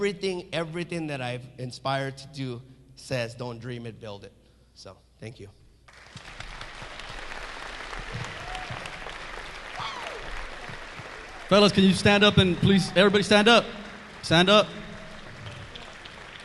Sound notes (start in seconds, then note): 6.2 audience clapping; 16.2 audience clapping